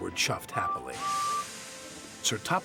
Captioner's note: toot